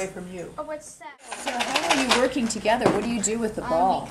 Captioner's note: typewriter making sound